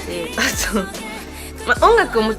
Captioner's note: laughing because I knew I said something stupid